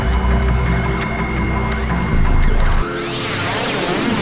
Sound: whirs

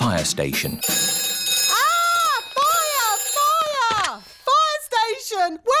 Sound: rings

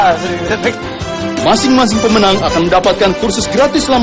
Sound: non-english speech

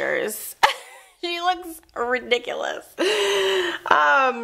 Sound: laughs

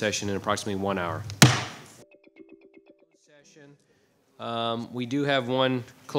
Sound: gavel thumping

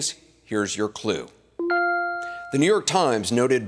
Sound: bell dinging

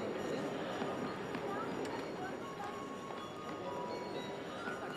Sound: speaking foreign language

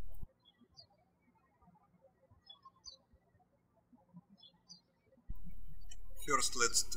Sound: birds chirping

